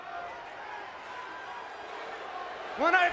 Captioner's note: crowd vocalizing